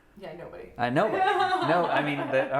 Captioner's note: laughing